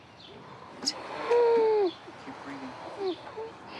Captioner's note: wheezes